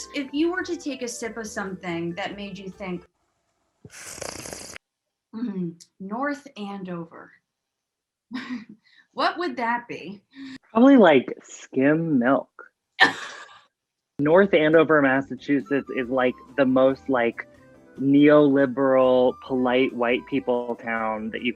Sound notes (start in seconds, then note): 3.9 sips; 8.3 chuckles